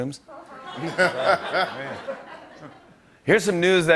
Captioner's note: laughter